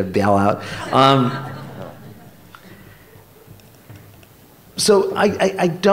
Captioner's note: laughter